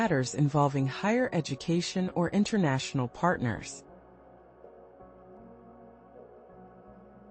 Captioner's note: pause